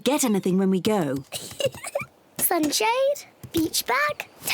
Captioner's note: giggles